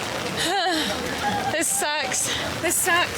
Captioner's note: groans